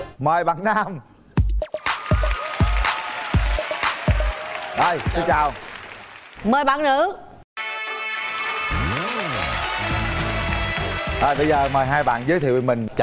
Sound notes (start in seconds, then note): 1.8 applause